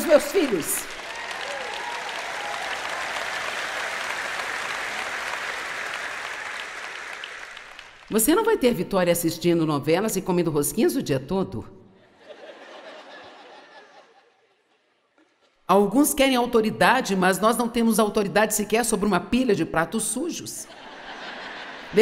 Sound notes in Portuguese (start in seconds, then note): 2.2 audiência aplaude; 12.1 audiência ri; 20.7 audiência ri